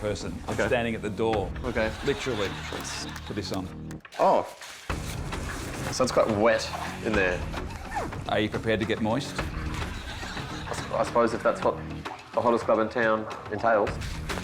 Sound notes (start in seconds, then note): 6.6 water splashing